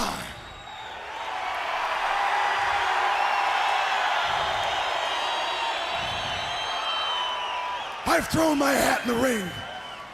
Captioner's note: crowd cheering